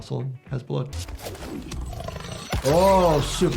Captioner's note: attack explodes